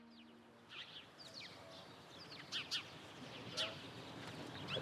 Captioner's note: birds tweeting